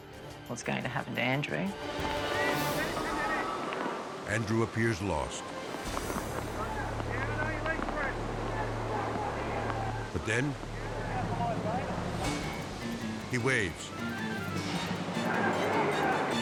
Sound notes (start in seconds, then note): 1.7 suspenseful music; 3.0 water rushing; 4.1 rescuers talking; 11.1 dramatic music; 14.2 hopeful music